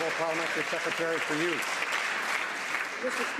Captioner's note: some Applause